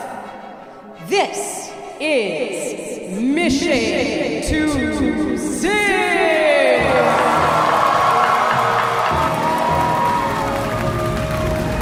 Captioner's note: applause